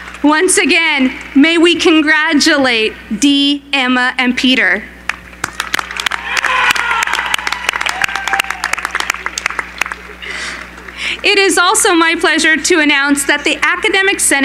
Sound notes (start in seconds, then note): 5.7 cheering